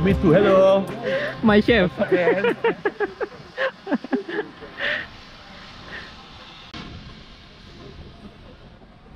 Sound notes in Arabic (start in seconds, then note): 2.0 ضحك